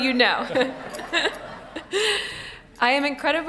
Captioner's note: laughing